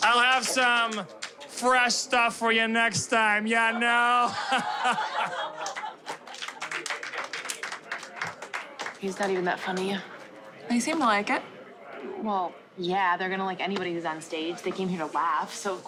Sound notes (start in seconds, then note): 3.6 laughing